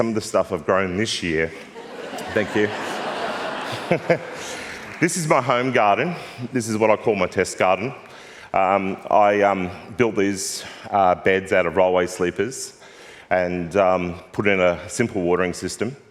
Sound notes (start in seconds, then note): 1.6 laughter; 1.6 laughs